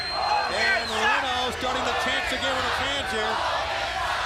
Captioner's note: crowd cheering